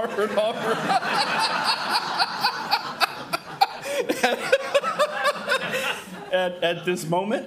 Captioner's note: crowd laughing